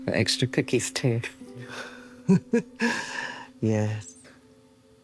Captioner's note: Evelyn chuckling